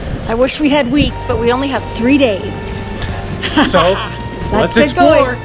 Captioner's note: laughs